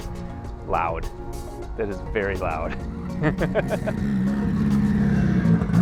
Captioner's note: laughs